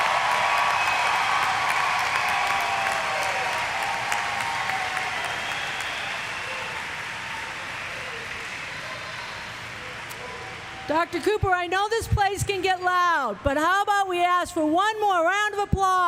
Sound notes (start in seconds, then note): 0.0 applause; 2.4 cheers